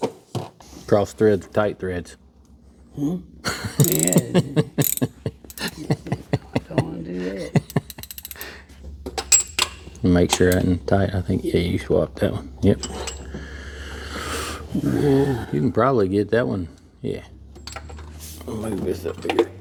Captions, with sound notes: Cross threads, tight threads. Hmm? (Laughing) Don't wanna do that. (Clicking) Make sure I tighten tight, I think. Yeah. Yeah, you swapped that one. Yep.